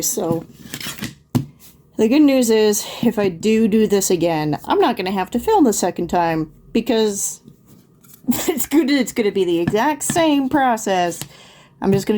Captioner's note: laughs